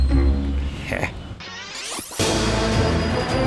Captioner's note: snickers; adventure music